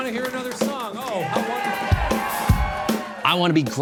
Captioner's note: audience cheers